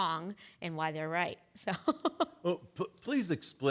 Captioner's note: laughing